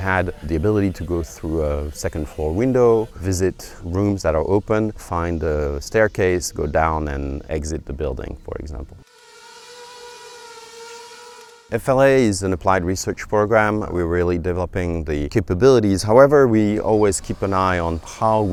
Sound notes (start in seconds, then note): 9.0 sound of quadcopter motors